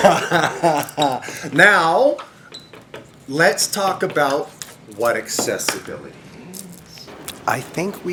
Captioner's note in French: rires